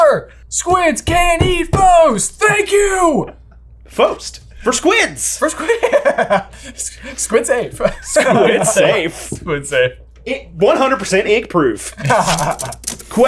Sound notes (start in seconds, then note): 5.5 laughs; 11.9 laughs